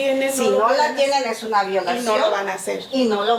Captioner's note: student speaking in Spanish; speaking in Spanish; student speaking in Spanish